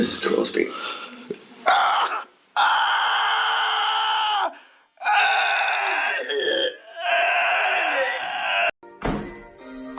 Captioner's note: gagging